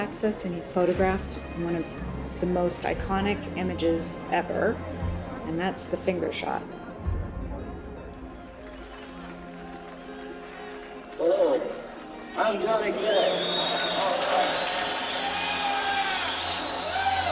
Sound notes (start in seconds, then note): 11.6 crowd murmurs